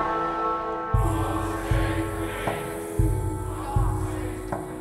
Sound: crowd

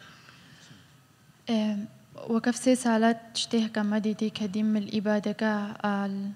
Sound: speaking foreign language

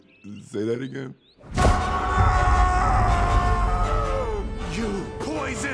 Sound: yelling

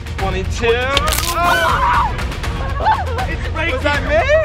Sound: cracking

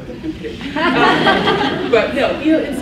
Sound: laughs

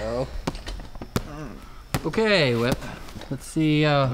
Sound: weak grunting

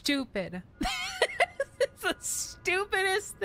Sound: laughter

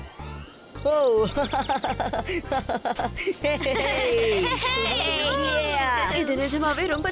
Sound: laughing

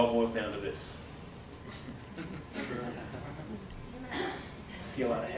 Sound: audience giggling

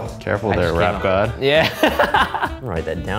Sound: laughing

